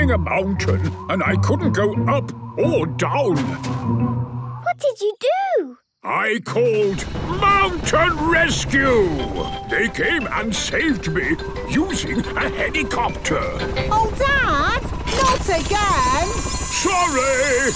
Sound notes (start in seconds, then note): none